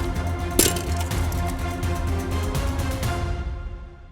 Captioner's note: helmet thumps; suspenseful music fades